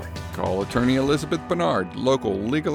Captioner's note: voiceover